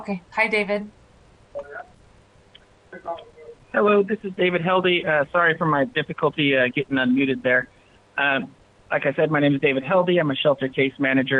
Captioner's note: speaking foreign language